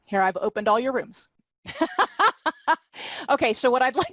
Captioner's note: laughter